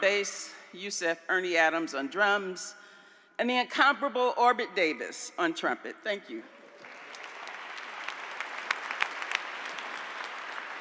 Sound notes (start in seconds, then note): 6.7 applause